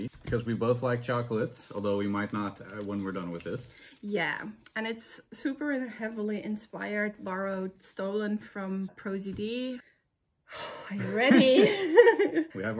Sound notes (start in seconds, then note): 10.5 deep breath out